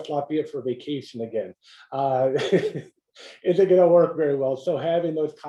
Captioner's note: laugh